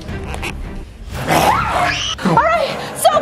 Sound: growling

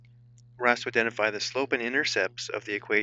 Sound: voiceover

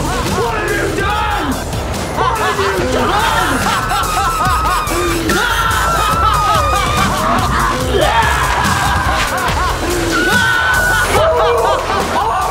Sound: laughing and dubstep; more laughing and dubstep

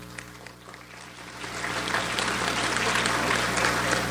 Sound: audience applauds

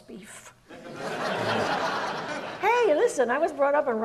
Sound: audience laughs

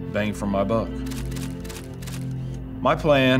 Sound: picture clicking

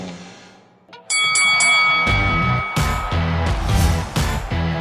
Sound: bell ringing

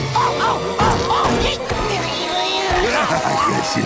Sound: groaning; grunting

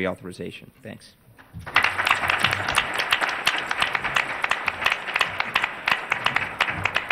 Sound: applause

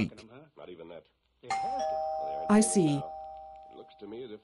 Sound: ding dong from front door

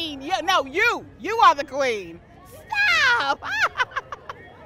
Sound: laughs

